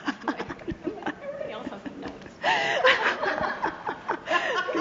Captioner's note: laughter